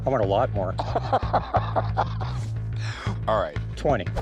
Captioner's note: laughs